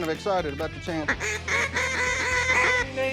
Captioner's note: duck calls quacking